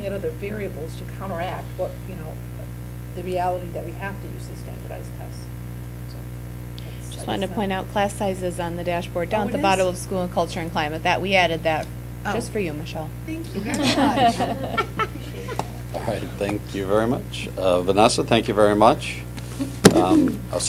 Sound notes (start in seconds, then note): 13.5 laughter